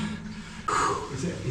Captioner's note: exhales